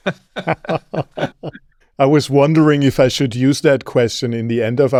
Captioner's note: laughs